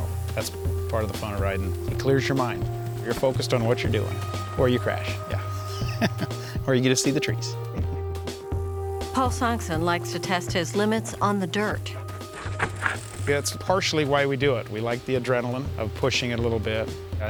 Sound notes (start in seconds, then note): 5.4 laughs